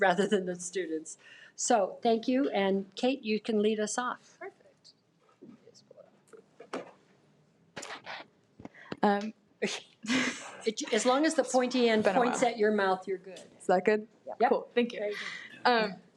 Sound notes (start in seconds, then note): 10.0 giggles